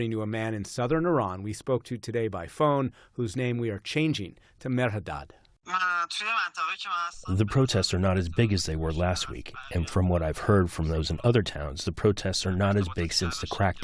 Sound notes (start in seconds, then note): 7.9 through translator